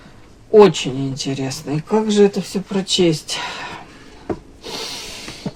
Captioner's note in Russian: фыркает